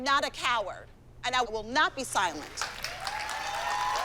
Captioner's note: applause, cheering